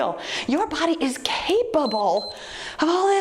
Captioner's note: timer beeps